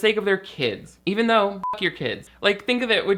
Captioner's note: beep